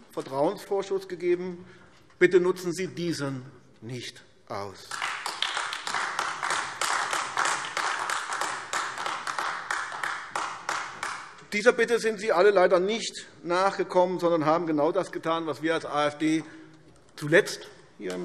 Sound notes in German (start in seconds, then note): 4.8 Beifall AfD